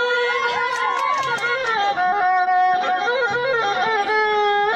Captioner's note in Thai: ปรบมือ